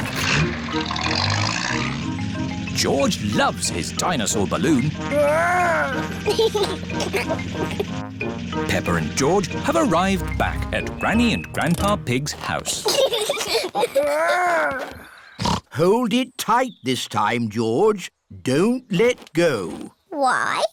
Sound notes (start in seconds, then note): 6.2 giggles; 12.7 both giggling; 14.8 snorts